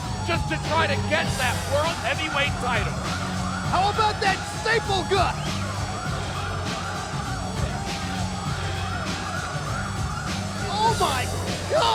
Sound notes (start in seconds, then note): 5.8 siren blaring; 5.8 upbeat music continues